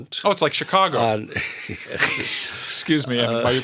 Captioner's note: laughter